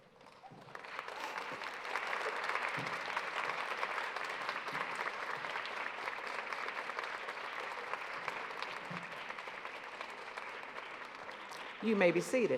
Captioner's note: applause